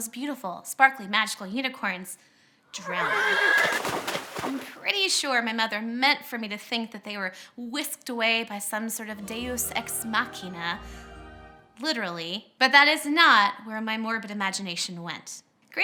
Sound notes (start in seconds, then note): 2.7 neighs of protest; 3.5 splashing; 9.0 choral music